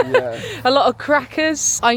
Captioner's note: laughs